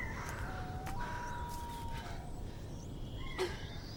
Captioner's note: birds chirping; owl calling